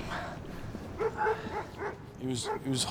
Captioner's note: dog barking